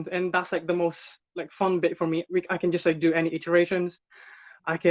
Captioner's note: none